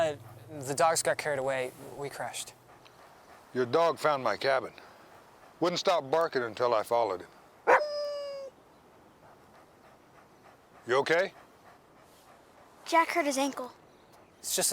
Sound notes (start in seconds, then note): 7.6 Buck barks